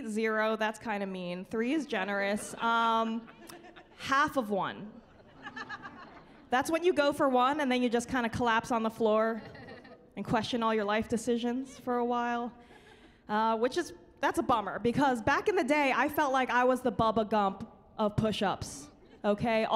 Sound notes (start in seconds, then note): 5.0 laughing